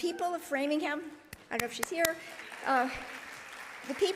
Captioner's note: claps